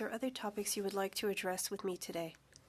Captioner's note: speaking French